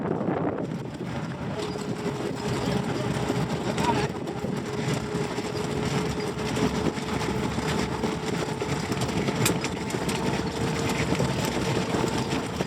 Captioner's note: horses jogging noise, wind noise